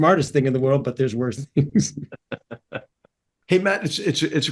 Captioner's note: laugh